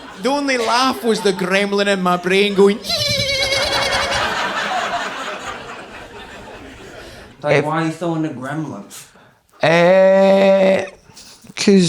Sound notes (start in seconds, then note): 2.8 makes screeching sound